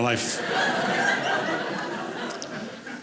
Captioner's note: audience laughing